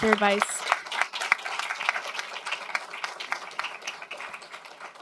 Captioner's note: applause